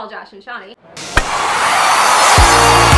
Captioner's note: loud screaming